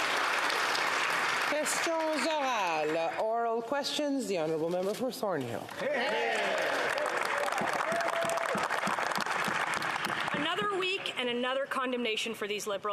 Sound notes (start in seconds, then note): 5.8 applause